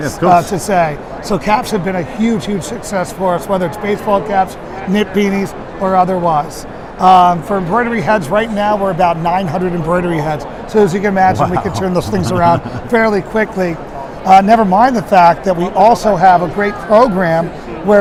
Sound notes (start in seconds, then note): 11.2 laughs